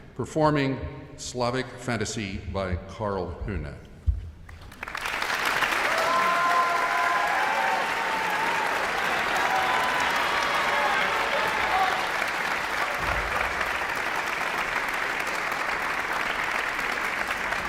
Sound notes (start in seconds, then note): 5.1 audience applauds; 5.1 people cheer